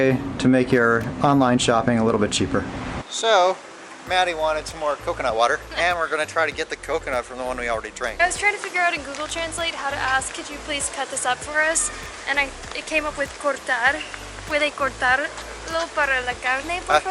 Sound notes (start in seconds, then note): none